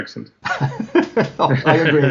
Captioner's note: laughing